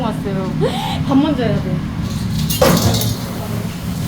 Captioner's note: gasps